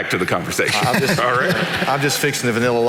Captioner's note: laughing